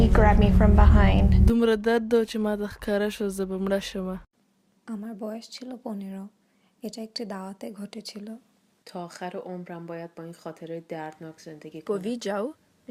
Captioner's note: foreign Language